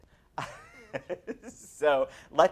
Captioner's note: laughs